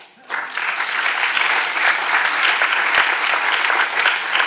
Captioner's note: audience applauding